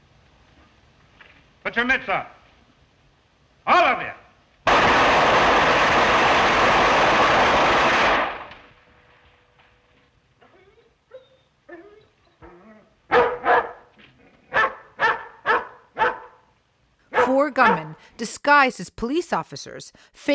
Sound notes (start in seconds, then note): 4.6 gunshots; 13.0 dog barking